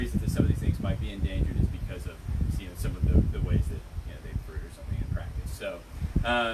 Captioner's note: wind noise